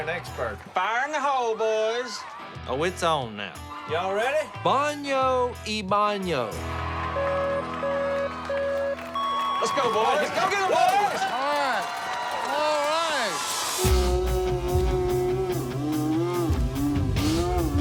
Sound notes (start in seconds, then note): 7.2 beeping; 13.3 slow motion yelling